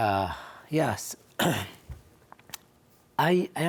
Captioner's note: coughs